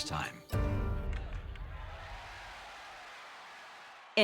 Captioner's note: crowd cheering; bat clacking